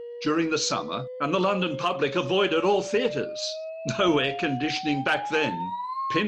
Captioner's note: chuckles